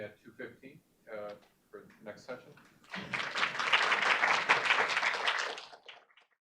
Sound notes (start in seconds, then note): 2.8 audience applauding